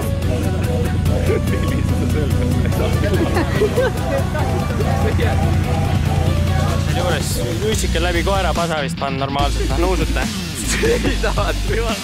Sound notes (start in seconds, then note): 0.3 laughing